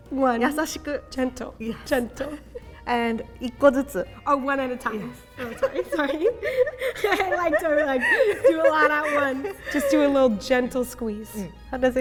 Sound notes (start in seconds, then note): 0.4 speaking in Japanese; 3.6 speaking in Japanese; 5.4 giggling